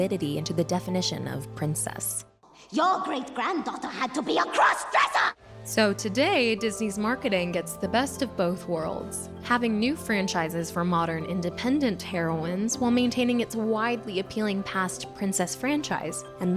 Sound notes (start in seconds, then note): 1.7 shrieking